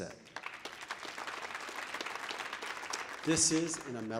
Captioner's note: audience applauding